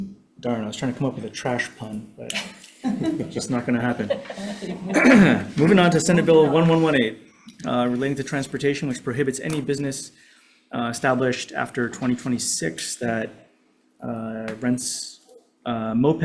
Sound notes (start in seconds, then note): 2.8 audience laughing; 4.9 Chair clears throat